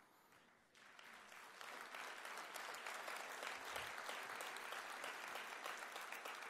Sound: applause

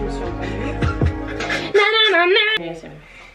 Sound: laughs

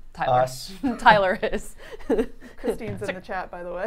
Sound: chuckling

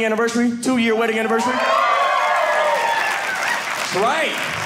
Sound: audience cheering

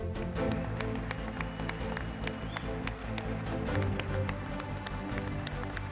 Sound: audience cheering and clapping

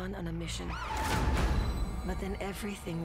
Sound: sirens wail

